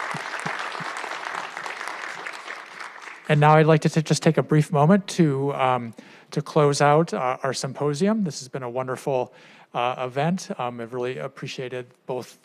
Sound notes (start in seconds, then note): 4.3 applause